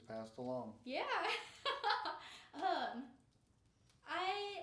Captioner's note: laughing